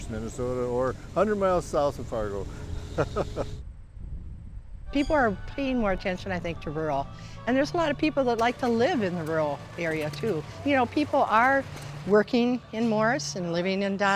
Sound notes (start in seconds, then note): 3.0 laughs